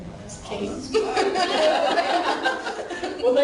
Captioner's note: laughing